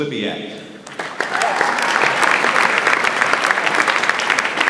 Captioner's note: audience applauds